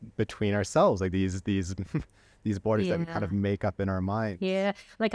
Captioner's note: laughter